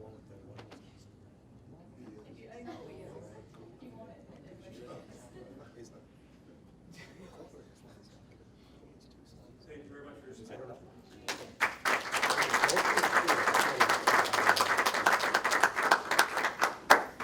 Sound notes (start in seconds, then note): 11.2 applause